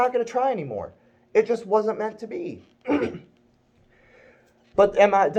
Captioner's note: clears throat